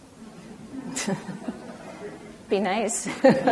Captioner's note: everyone laughs; laughs